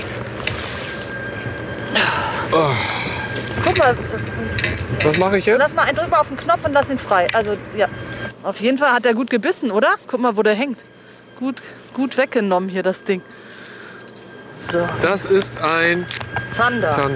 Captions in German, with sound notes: (Er stöhnt.) Guck mal. Was mach ich jetzt? Drück auf den Knopf und lass ihn frei. Auf jeden Fall hat der gut gebissen, oder? Guck mal, wo der hängt. Gut weggenommen hier das Ding. Das ist ein ... - Zander.